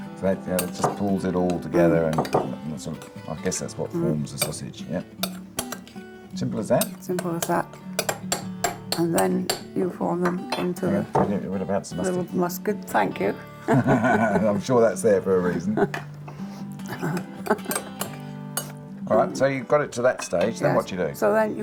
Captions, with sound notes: Great. Now that just pulls it all together and I guess that what forms the sausage. Yep. Simple as that? Simple as that. And then you form them into... You forgot the mustard. Oh, yes, mustard, thank you. (LAUGHTER) I'm sure that's there for a reason. Alright, so you've got it to that stage. Then what do you do?